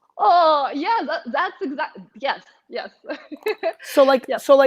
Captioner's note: laughs